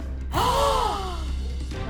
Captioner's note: gasping